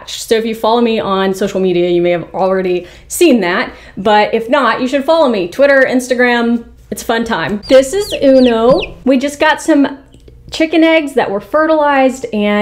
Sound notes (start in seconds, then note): 7.6 Uno chirping